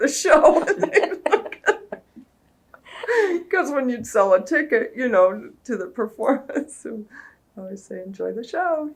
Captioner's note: laughter